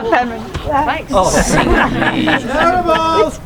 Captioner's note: audience laughing